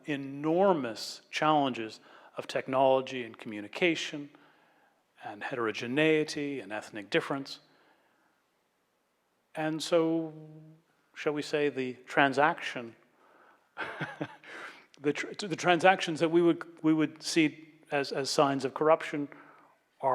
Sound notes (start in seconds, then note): 13.8 laughs